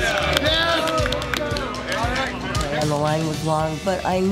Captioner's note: cheering